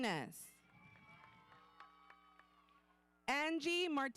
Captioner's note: audience cheering; audience applauding